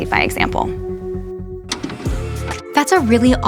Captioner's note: tape pausing